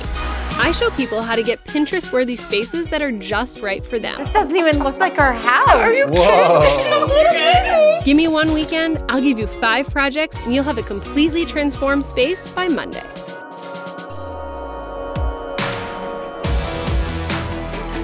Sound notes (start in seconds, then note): 6.1 laughter; 14.8 upbeat music